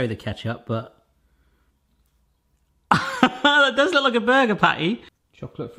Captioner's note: laughing